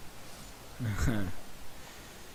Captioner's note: chuckling